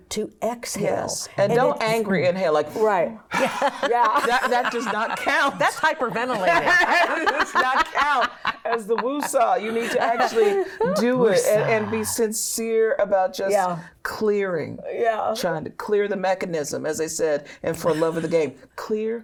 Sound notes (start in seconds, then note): 4.3 exhales; 9.1 laughs